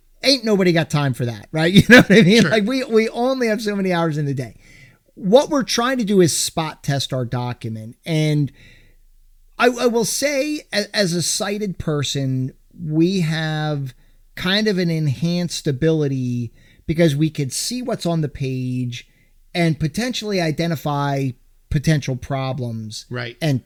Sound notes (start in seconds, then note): 1.7 laughing